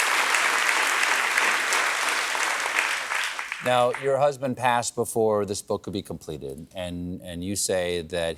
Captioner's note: applause